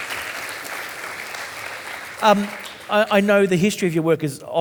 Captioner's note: audience applauding